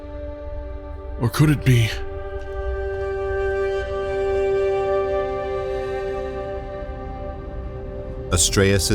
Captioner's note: hastened footsteps fade to medical sounds